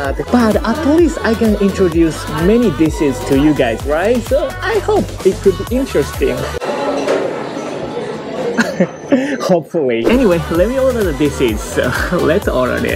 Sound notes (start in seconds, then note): 8.5 chuckle